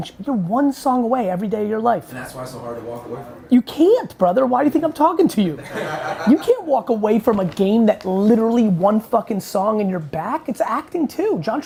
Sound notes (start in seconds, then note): 5.6 laughing